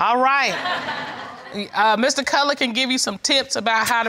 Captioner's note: audience laughing